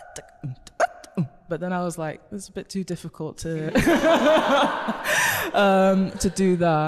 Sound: everyone laughs

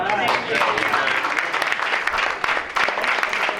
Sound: applause

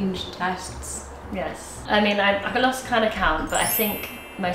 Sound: chimes tinkling

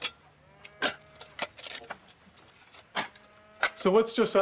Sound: cows mooing

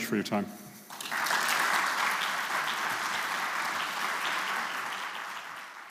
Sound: applause

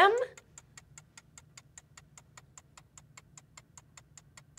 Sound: clock ticking

